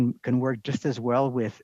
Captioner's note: speaking in French